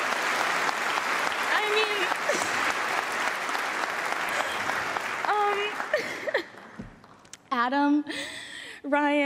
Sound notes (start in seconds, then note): 4.7 applause